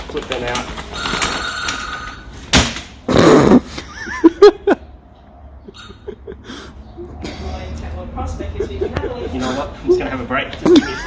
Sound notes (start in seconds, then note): 1.0 phone rings; 3.7 cameraman laughs